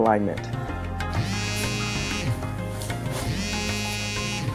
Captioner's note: phone buzzing